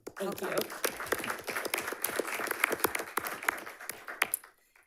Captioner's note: audience clapping